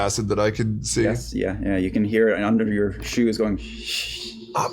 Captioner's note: sizzling